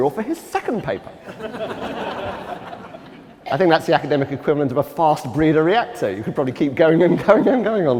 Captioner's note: laughter